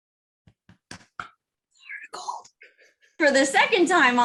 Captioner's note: whispers